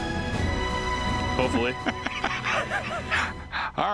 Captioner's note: laughing